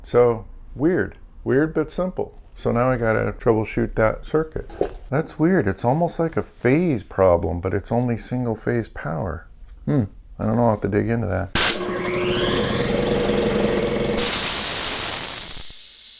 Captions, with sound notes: So weird. Weird but simple. So now I've got to troubleshoot that circuit. That's weird. It's almost like a phase problem but it's only single phase power. Hmm. I don't know, I'll have to dig into that. (compressor running) (air hiss)